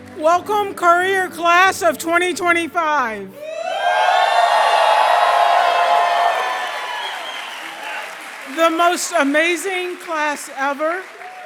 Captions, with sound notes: Welcome Currier Class of 2025. [CHEER] The most amazing class ever.